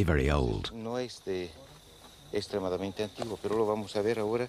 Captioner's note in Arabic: الصوت المنطوق باللغة الإسبانية